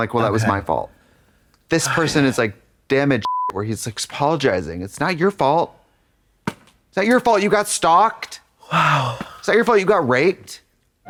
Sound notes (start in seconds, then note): 3.2 beep